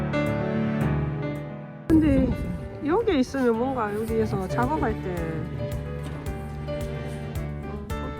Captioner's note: electric pump